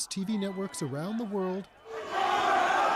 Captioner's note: crowd noise